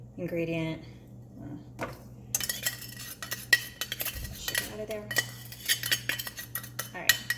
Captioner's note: sound of scraping